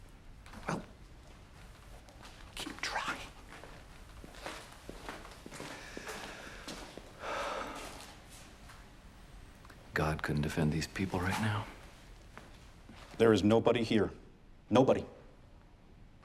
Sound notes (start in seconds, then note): 5.6 breathes deeply